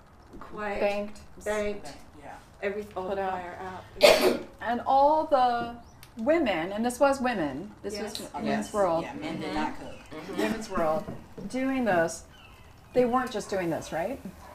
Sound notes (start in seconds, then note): 3.9 coughs